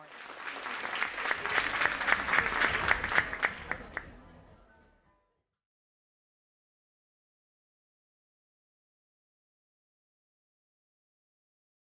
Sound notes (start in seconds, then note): 0.0 audience applauds; 3.8 audience chattering